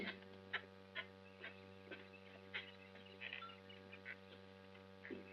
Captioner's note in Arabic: خطوات